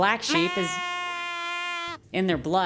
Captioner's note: baaaa